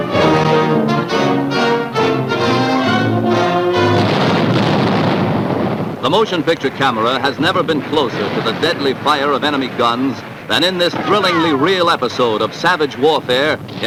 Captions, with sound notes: (dramatic music) (guns firing) The motion picture camera has never been closer to the deadly fire of enemy guns than in this thrillingly real episode of savage warfare